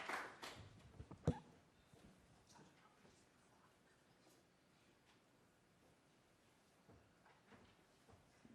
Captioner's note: applause